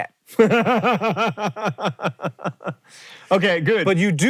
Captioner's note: JOHN laughs